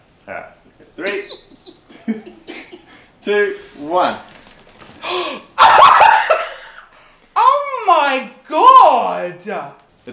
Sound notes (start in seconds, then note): 0.9 Christian giggles; 0.9 chuckles; 5.0 Christian gasps; 5.5 Christian laughs